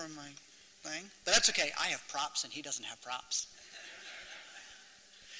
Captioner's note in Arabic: ضحك